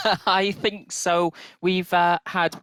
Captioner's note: laughs